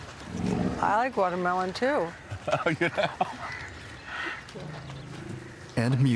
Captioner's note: laughing